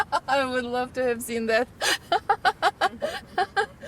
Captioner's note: Marcie laughs; laughs